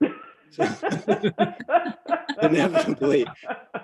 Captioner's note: laughing